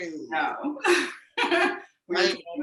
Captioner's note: laughs